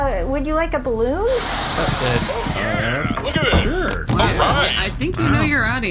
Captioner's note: blows up balloon